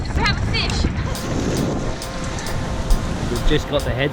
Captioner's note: ocean waves